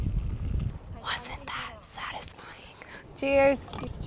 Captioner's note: whispering